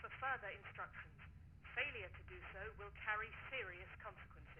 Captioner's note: intercom